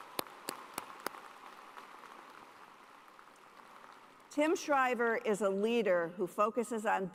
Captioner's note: cheers and applause